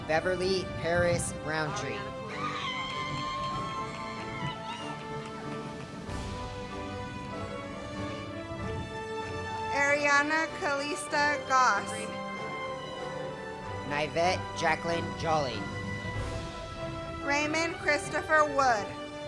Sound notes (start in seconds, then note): 2.3 cheers